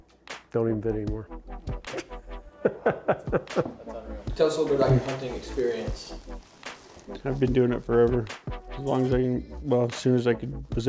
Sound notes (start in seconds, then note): 2.4 laughing